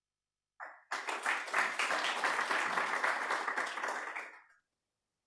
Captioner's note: applause